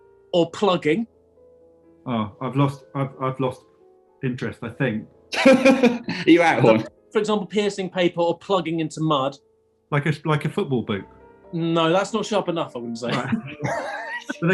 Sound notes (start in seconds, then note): 5.4 laughing; 13.1 laughter